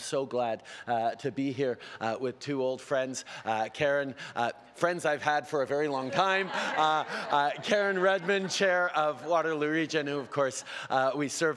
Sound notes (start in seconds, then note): 5.9 laughter